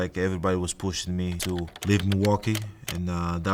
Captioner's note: keyboard clicking